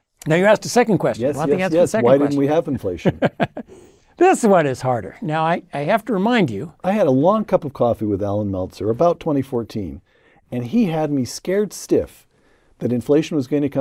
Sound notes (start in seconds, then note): 4.5 laugh